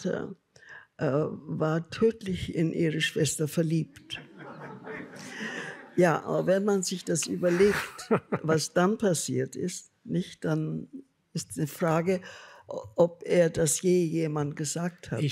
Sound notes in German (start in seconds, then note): 4.1 Lachen